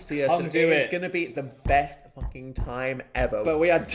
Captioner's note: hands thumping